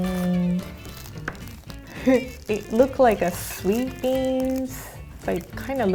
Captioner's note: giggles